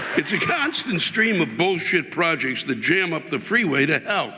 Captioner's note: audience laughing